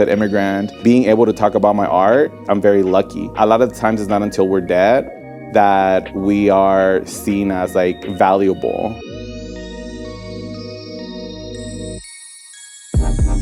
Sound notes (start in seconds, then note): 9.6 electronic chimes